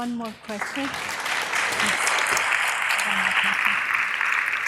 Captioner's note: audience applause